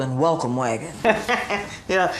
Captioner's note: laughs